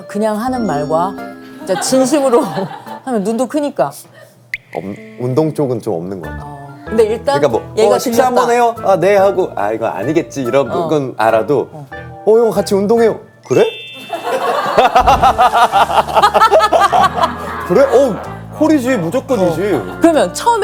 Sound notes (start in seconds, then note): 14.2 laughs